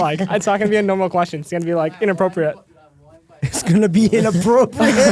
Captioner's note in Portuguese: risos